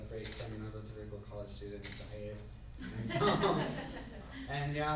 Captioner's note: laughs